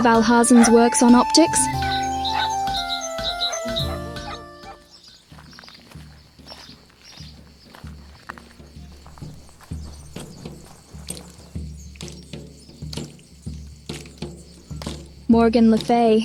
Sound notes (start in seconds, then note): 5.2 footsteps and drums